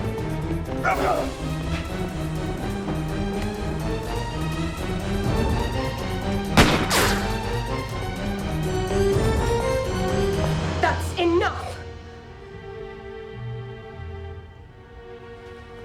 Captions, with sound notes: (gun firing) - That's enough.